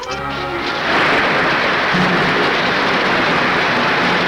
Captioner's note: water gushing